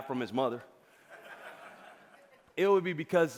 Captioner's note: audience laughing